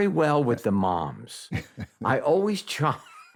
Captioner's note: chuckles; laughs